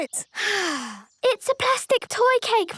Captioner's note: sighs